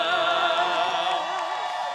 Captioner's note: applause